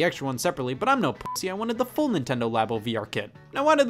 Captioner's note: beep